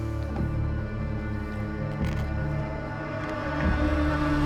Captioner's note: light crunching